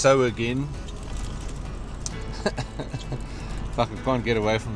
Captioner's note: laughs